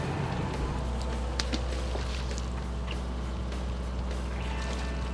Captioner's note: water plops; boat motor rumbles